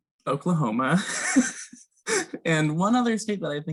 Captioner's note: laughs